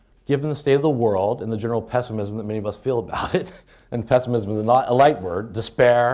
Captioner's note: chuckles